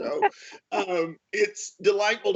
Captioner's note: laughs